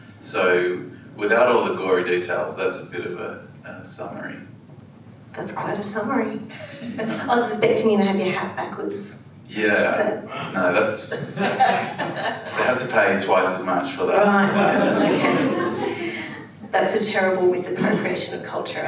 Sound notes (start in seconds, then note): 11.4 laughs; 14.4 audience laughs